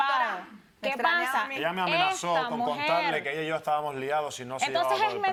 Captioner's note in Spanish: Comentarios al unísono